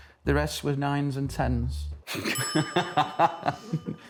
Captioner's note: laughter